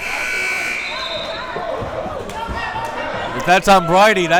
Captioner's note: timer buzzes